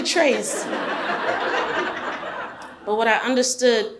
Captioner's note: audience laughs